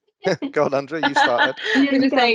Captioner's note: chuckles; laughing